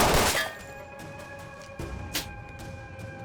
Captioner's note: spits